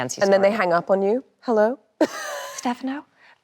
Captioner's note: laughs